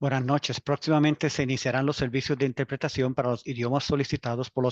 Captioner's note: Spanish